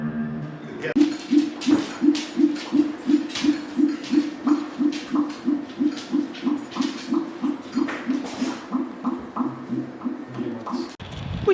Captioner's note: minke whale sounds